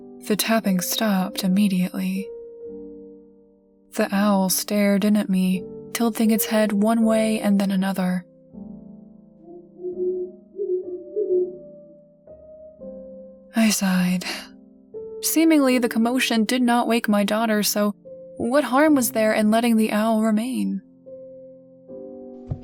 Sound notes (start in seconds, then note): 9.4 hoot